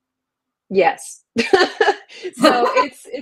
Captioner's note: laughs